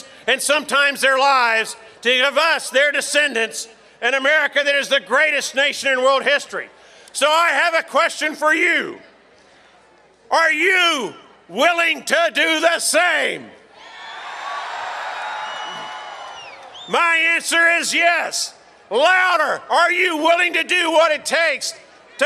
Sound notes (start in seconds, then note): 13.8 audience cheers